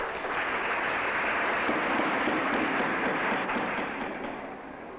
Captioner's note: audience applauding; gavel banging; audience applauding